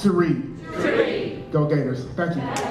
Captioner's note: crowd